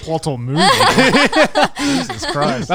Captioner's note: everyone laughing